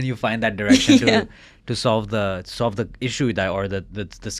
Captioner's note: laughs